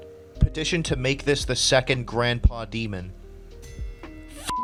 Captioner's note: sarcastic, of course